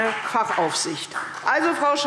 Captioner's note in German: Beifall CDU